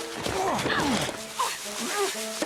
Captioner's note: grunting; playful music